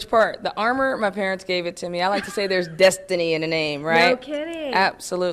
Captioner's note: laughs